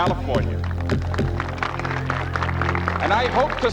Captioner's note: applause